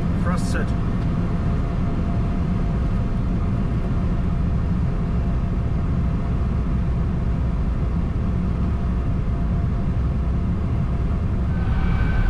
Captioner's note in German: gleich bleibende Fahr- und Motorengeräusche; Anschwellende Triebwerksgeräusche